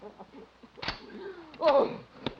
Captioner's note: rifle cocking; Danny sobbing